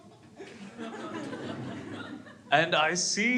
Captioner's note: crowd laughs